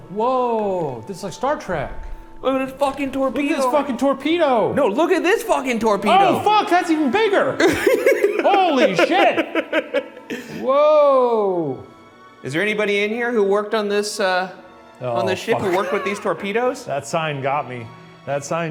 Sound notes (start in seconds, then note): 7.6 laughs